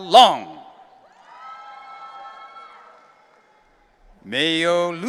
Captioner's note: audience cheering